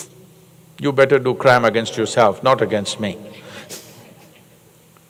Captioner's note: few laugh